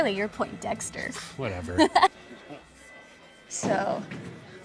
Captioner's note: Keely laughs